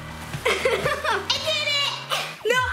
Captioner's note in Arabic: يضحك